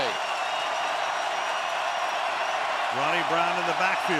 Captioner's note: crowd cheering